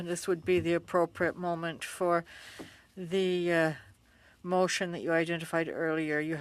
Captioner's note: speaking French